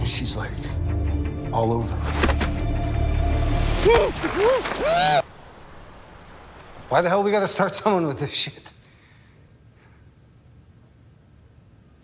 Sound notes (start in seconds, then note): 2.0 rustling, impact; 3.8 muted yells, guttural struggling; 5.2 wind; 9.6 silence